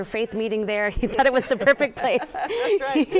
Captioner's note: laughing